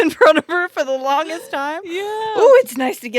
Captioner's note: laughs